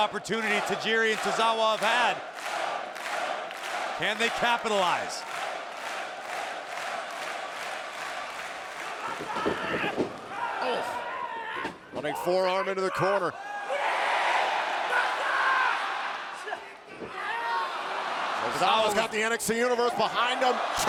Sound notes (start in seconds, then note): 5.5 audience cheering; 5.5 audience clapping; 14.1 Tozawa shouting; 14.1 audience cheering